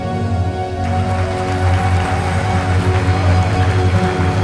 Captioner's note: applause